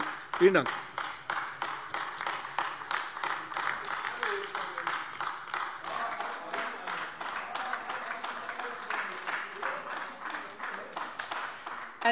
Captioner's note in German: Beifall AfD